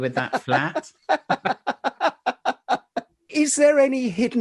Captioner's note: laughing